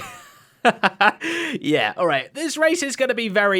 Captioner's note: laughs